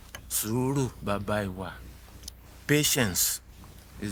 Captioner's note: speaking in foreign language